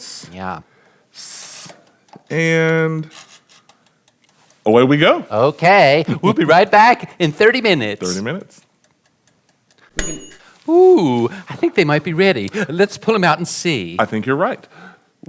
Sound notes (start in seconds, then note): 3.1 dials creaking; 8.2 timer ticking; 9.9 dings